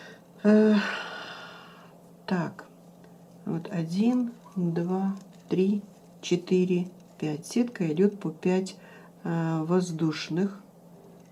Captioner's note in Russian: вздыхает